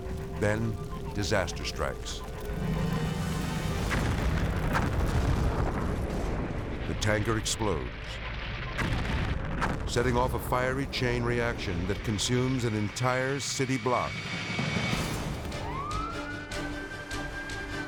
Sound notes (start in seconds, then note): 3.7 explosion booms; 8.4 explosion booms; 15.4 siren wailing